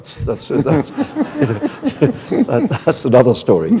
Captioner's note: laughter